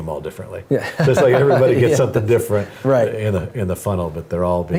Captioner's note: laugh